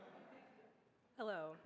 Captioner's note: audience laughs